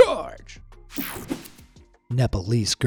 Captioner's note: swoshing